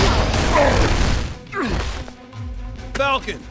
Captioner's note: wincing